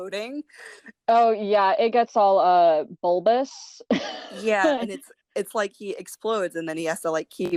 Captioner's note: laughter